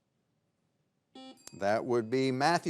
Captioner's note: buzzer beeps